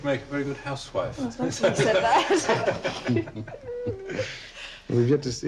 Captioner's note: Charles laughs loudly